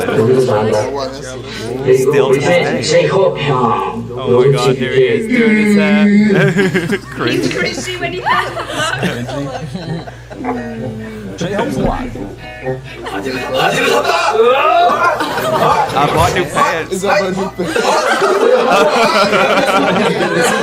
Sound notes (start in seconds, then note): 14.9 both shout; 17.6 both laugh